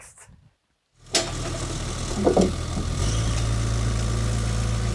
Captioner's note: engine revving